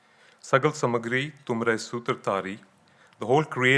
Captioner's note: speaking in foreign language